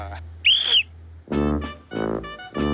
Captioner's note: Blowing whistle